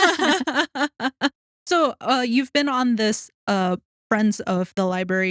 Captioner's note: laughing